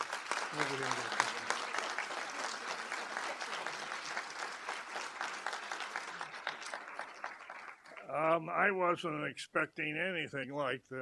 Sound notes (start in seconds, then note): 5.9 applause